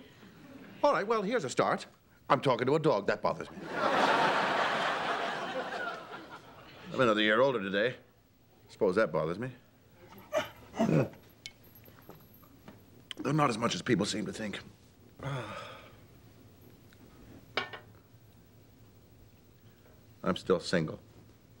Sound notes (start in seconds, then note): 10.1 whimpers; 15.2 sighs